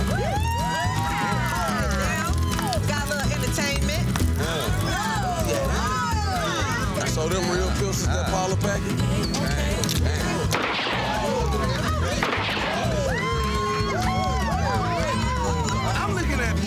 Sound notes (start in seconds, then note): 0.0 group cheering; 11.2 group gasping; 12.1 rounds firing; 14.4 group cheering; 14.4 group laughing